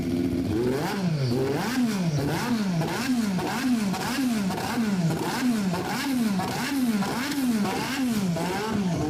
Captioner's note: aggressive formula 1 engine idling; brrrrRUUM bVRRUM bVRRUM bVRIM bVRREEEM; aggressive formula 1 engine revving!; engine noise fades out